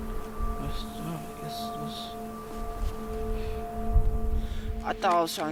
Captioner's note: breathing heavily